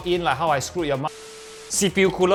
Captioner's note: glitch sound